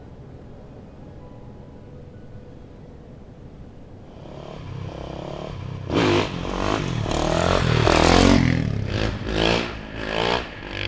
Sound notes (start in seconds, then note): 4.1 motorcycle engine revving